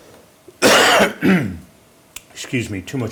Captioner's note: coughs